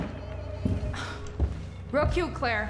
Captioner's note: sinister music continues; Rachel sighs